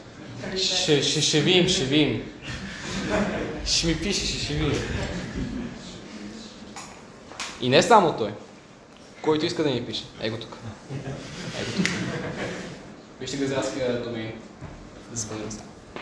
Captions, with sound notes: We'll see, we'll see. Drop me an email and we'll see. (laughing) We'll see, we'll see. Drop me an email and we'll see. (laughing) And not only him! Anyone who wants, write me here... And not only him! Anyone who wants, write me here... zvezdin@comrade.coop